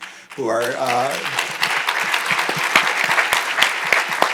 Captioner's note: audience applauding